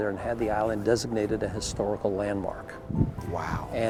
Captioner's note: none